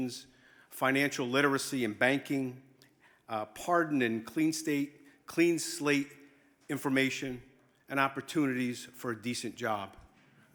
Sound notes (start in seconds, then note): none